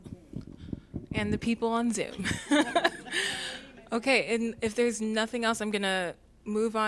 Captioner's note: laughter